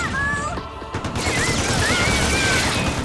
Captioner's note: exclaiming